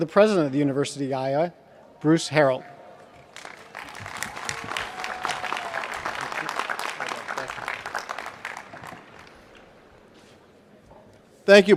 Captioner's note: applause